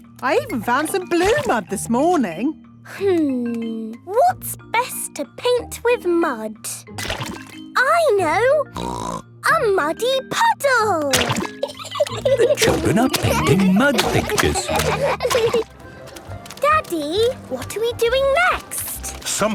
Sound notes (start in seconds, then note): 11.5 laughing